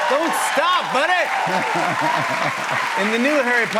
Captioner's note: cheers and applause